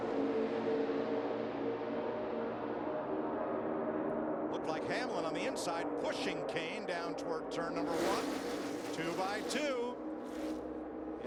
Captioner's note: engines roar